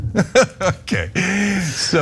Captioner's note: laugh